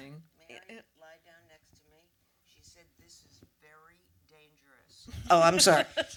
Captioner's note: without mic